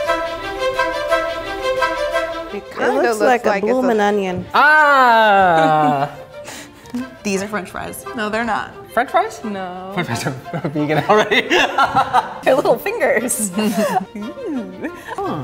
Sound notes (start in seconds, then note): 0.1 classical music; 13.0 laughing; 13.0 laughs